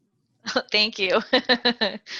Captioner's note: laughs